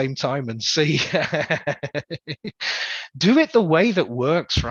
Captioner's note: laughs